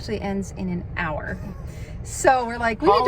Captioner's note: laughing